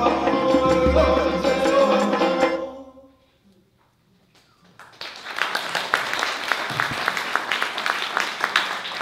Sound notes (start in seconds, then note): 4.6 applause